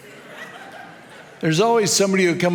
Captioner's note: audience laughs